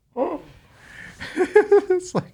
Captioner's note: laughing